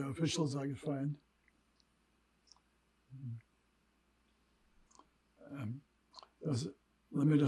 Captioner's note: pauses 6 seconds